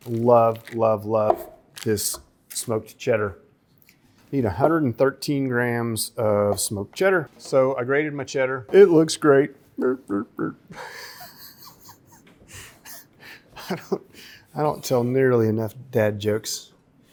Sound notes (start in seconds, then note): 10.7 laughs mockingly